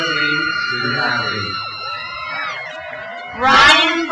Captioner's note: crowd cheers